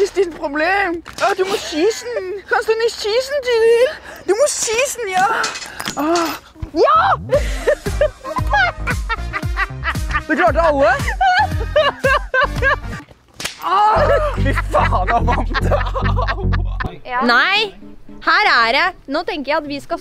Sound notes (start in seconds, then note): 6.9 laughs; 11.0 Tiril laughs; 13.8 both laugh